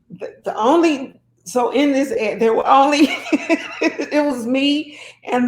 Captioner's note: laughing